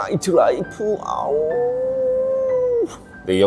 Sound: sighs

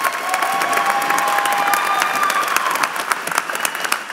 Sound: applause

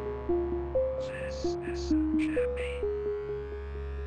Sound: slow Whisper

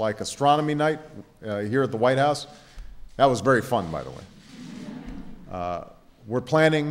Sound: laughter

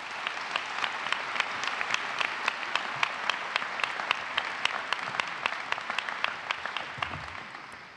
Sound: applause

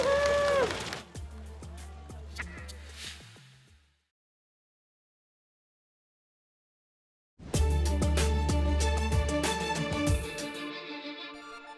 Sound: cheers and Applause

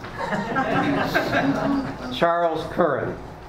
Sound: laughs

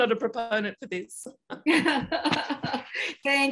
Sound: laughter

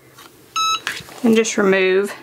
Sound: easy press beeps

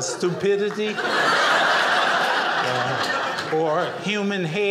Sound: audience laughing

